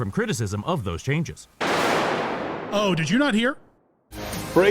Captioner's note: thunder crack